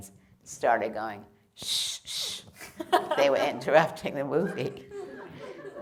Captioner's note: laughter